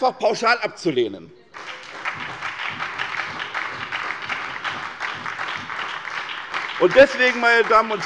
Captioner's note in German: Beifall bei der SPD